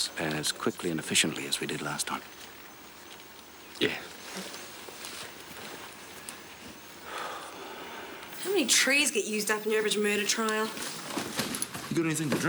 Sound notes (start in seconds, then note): 7.0 Alan sighs